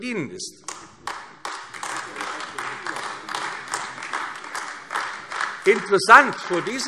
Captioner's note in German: Beifall AfD